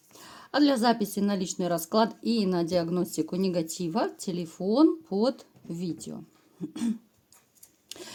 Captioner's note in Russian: откашливается